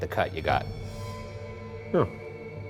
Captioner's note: REM-pod beeps